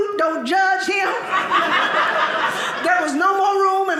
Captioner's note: audience laughing